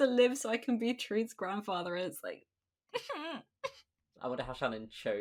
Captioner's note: sobs